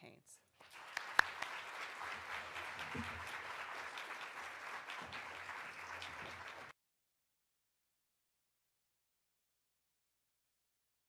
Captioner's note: applause